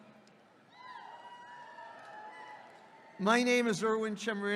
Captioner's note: audience cheering